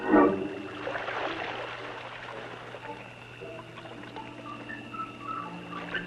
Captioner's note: water splashing; stirring music